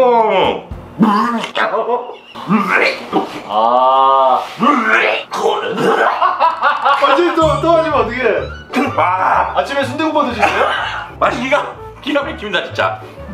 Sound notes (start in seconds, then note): 2.0 throwing up sounds